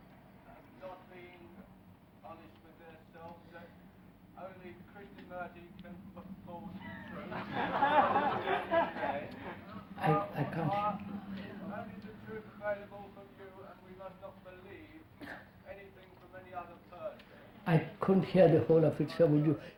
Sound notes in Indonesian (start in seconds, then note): 6.8 Tertawa